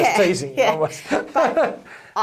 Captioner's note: laughs